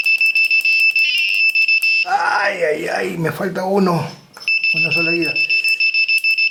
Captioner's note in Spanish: campana